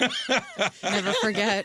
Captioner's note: laughing